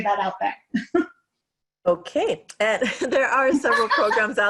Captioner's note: laughs